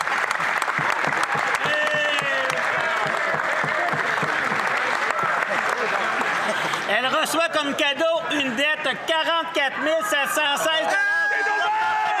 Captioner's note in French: applaudissements